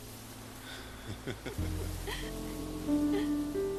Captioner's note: chaz and madelaine laughing